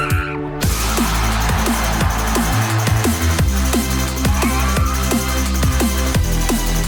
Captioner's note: upbeat techno music; audience cheering